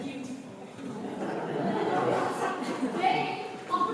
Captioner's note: laughter